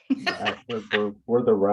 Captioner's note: laughter